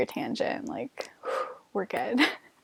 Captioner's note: breathes out in relief